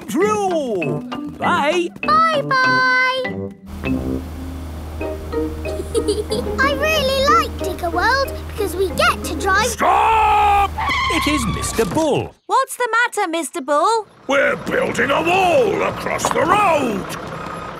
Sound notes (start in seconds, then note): 5.6 george chuckling; 11.4 tires screeching